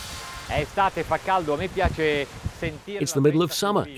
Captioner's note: speaking in foreign language